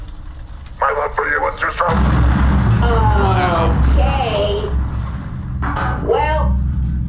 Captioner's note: words cut off by an explosion